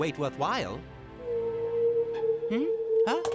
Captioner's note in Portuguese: queixume distante